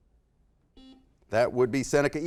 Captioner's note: buzzer